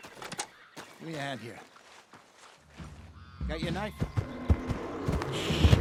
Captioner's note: roars of an unknown animal approaches